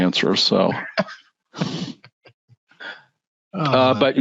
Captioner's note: laughing